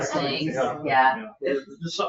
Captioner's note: members laugh